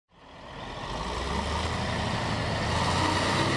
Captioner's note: truck sounds